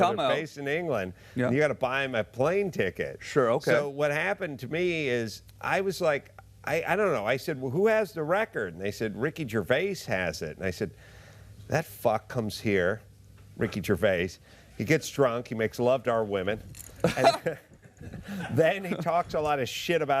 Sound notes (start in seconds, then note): 17.0 laughter